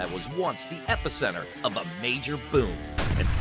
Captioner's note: explosion booming